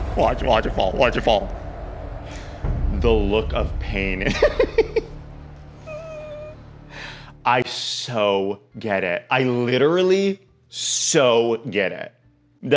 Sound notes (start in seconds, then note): 5.6 whimpering; 5.7 laughs